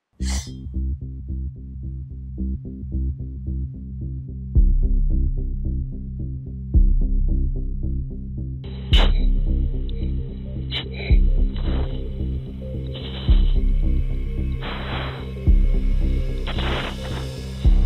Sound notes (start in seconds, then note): 8.5 sharp breathing